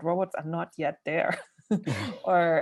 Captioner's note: laughs